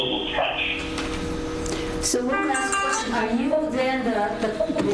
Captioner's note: ringing tone drowns the speaker